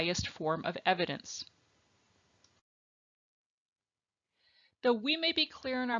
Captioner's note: silence